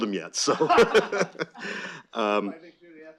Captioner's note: laughter